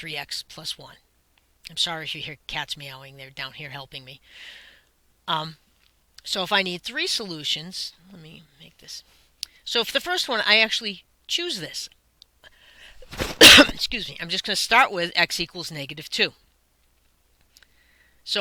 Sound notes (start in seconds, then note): 13.0 cough